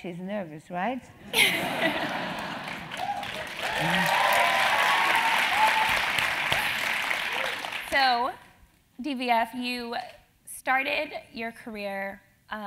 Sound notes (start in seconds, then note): 1.2 laugh; 4.3 applause